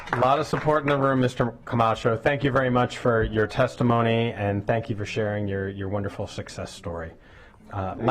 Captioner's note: applause